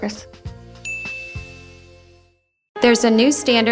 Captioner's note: ringing